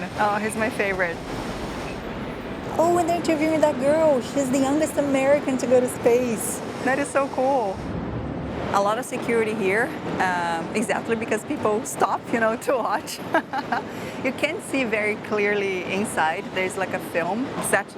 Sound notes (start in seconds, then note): 13.3 laughs